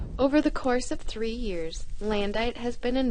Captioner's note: voiceover